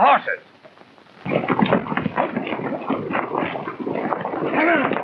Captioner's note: hooves clomping